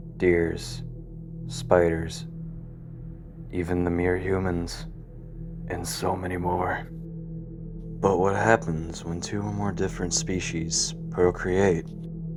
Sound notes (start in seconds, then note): none